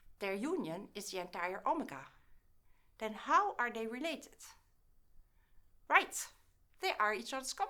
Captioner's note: short pause